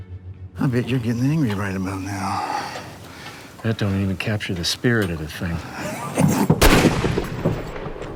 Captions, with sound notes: That don't even capture the spirit of the thing. [gunshots]